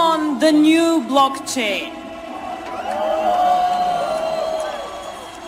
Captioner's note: Gritos - Aplausos